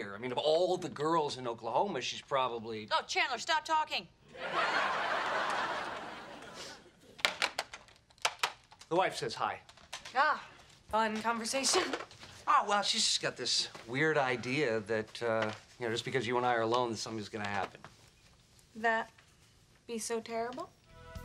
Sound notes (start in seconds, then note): 4.4 audience laughing; 7.5 clicks phone down